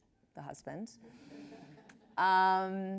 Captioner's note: laughs